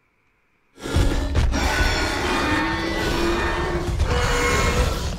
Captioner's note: Scorpius Rex roaring